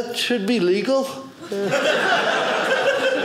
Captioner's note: audience laughing